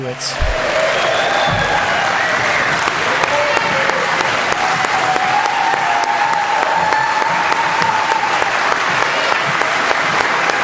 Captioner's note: applause